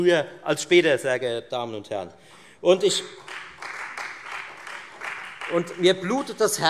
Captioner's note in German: Beifall Freie Demokraten